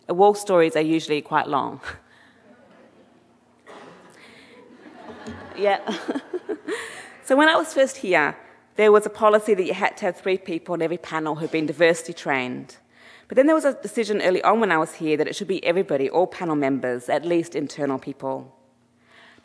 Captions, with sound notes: Wall stories are usually quite long. (audience laughing) Yeah, (laughs). So when I was first here, there was a policy that you had to have three people on every panel who'd been diversity trained. But then there was a decision early on when I was here, that it should be everybody, all panel members, at least internal people.